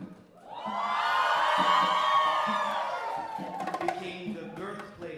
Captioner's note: audience cheering